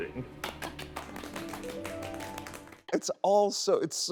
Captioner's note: group clapping